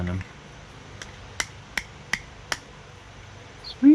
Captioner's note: tapping